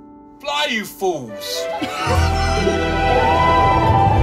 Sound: laughter

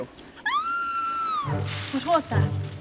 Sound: scream

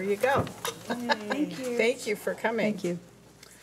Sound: chuckling

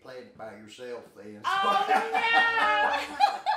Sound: laughing

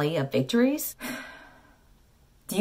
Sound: sigh

